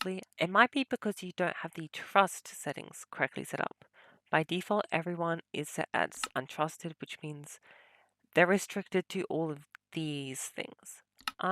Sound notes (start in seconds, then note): none